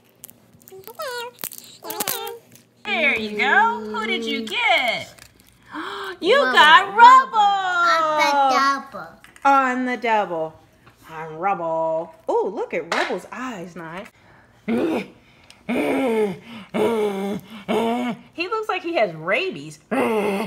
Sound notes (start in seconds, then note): 9.7 voiceover; 14.8 growling